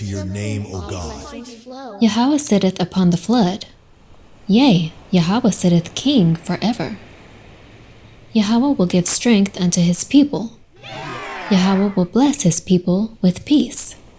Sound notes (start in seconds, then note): 7.0 ocean waves rushing